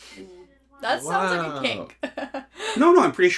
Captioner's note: giggles